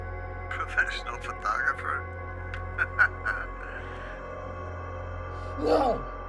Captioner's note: laughs